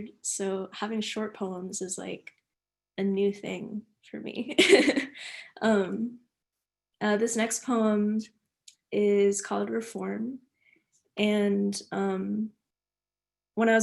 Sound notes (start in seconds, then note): 4.6 laughing